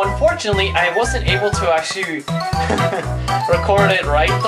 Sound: laugh

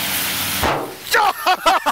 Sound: explosion; laughter

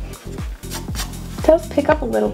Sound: palm rubbing

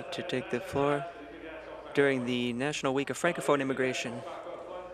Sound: chuckles; speaking in French

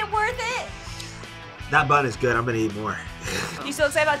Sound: laughs

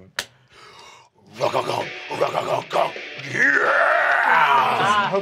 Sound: mimics bass music

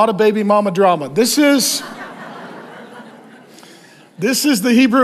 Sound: congregation laughs

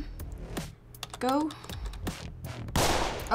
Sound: tapping key; gunshot

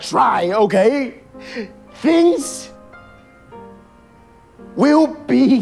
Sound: over enunciatiing

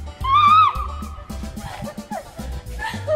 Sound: screaming

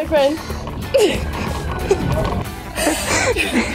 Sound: laughing

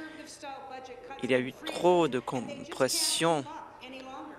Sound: applause

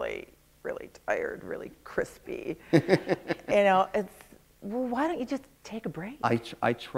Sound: laughter

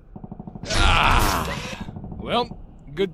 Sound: stretches, groans

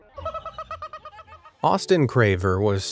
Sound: laughing

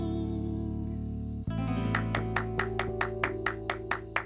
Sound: applause

